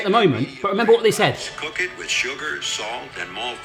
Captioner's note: voice On Phone